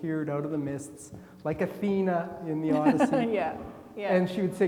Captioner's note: laughing